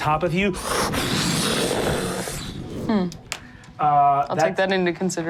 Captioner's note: groans; whooshing